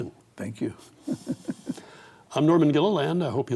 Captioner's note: chuckles